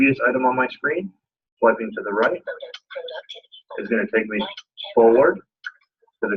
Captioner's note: indecipherable system noises